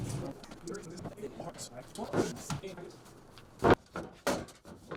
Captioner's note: truck rumbling; high-speed chattering